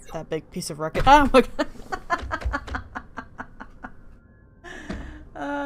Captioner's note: laughing really hard